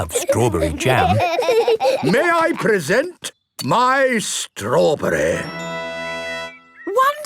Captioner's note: laughing